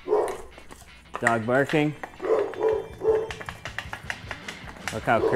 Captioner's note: dog barking